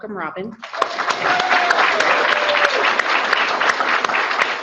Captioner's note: audience clapping